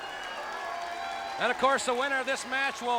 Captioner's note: crowd cheering